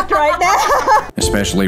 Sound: laughs

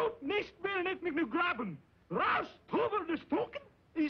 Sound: shouting German

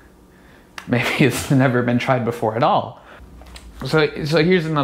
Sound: chuckles

